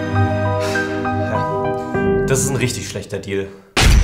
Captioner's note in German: seufzt; Beklemmende Musik